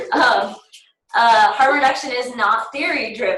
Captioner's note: laughter